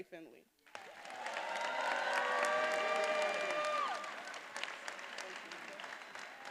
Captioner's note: attendees applauding and cheering